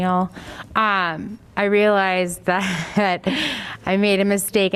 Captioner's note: laughter